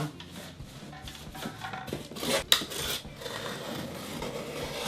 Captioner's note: metallic rattling